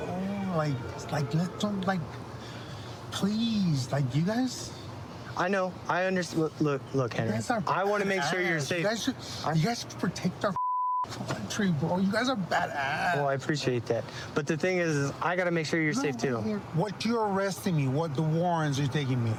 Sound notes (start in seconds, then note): 10.6 beep